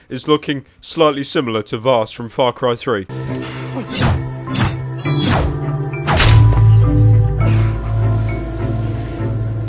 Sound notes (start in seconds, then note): 3.8 knife slashes; 6.1 woohBASH